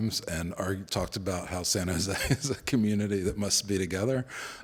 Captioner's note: laughs